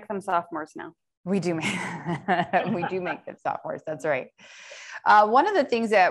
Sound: laughter

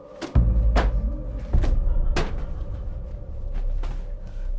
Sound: books thudding

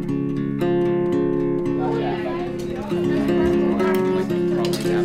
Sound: student chatter

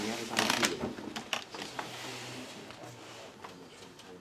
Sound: people chattering

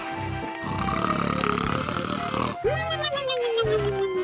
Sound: snores

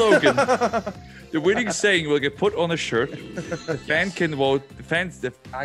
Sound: laugh

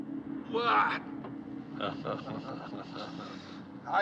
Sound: chuckling

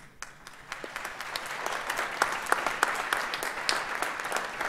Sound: audience applauds

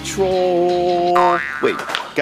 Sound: boings

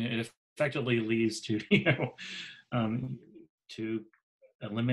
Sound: laughs

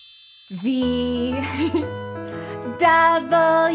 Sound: giggles

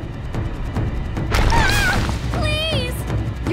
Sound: screaming

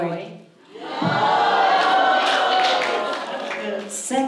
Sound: audience cheers

